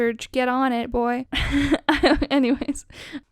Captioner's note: laughs